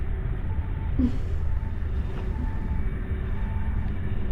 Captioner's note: Veltron laughs